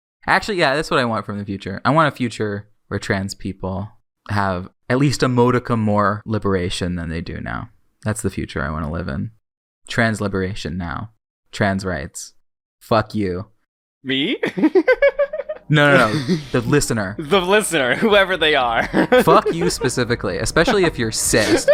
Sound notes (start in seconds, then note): 14.4 laughs; 18.6 laughs